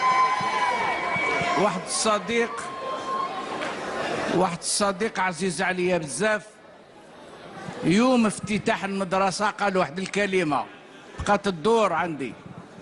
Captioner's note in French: discours en arabe